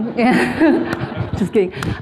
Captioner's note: laughing